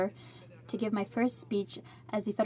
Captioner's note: speaking in french